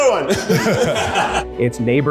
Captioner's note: crowd laughing